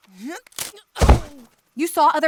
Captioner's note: grunts